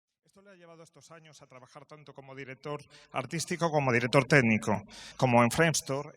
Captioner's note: spanish announcer